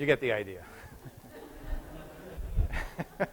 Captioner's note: laughter